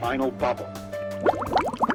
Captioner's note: bubble sounds